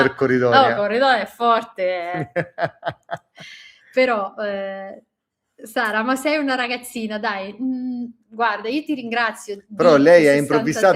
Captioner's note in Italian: risate